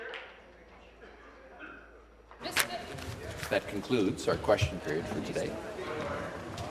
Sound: some applause

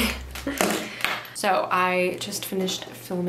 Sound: cord falling

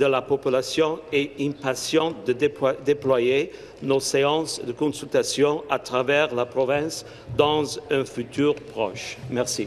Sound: speaking in French

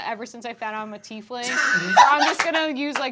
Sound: laughing

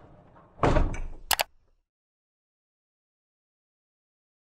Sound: logo clicking

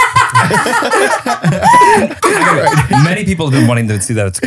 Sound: laughing

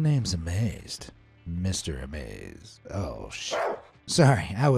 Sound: dog barking

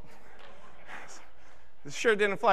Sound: audience laughing

